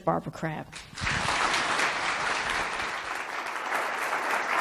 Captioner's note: audience claps